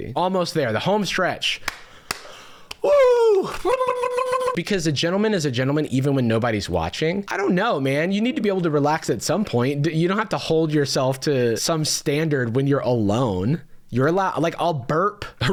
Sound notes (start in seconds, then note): 2.8 shrill Wookiee noises